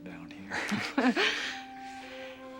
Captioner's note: both chuckle